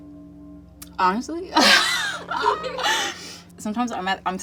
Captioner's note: laughs